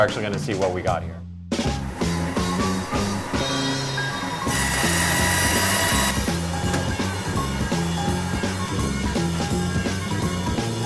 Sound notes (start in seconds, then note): 1.7 upbeat music; 4.3 saw running